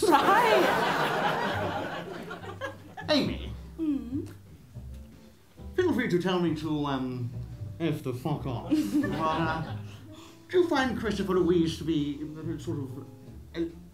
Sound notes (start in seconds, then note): 1.8 laughter